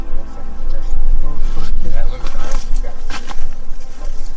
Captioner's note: speaking faintly